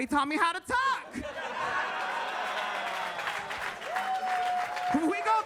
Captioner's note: audience cheering